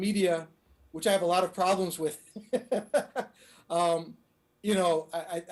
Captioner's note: laughing